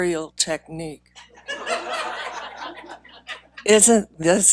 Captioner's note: laughing